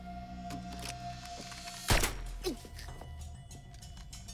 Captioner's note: silenced gunshot; grunts